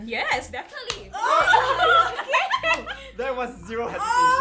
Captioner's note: laughs